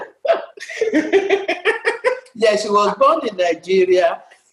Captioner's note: laughs